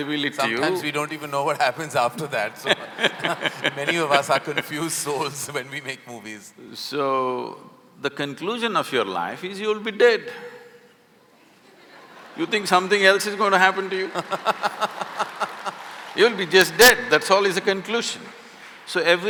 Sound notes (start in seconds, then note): 2.2 laughter; 11.4 laughter; 14.6 laughter/Applause